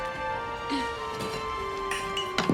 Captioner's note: grunts; metal clanging